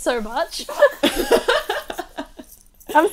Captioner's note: hosts laugh